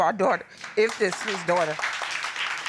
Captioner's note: audience applauding